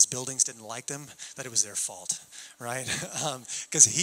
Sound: chuckling

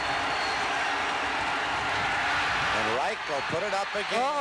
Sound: cheers and applause

